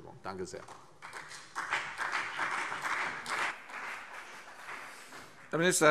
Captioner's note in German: Beifall CDU und BÜNDNIS 90/DIE GRÜNEN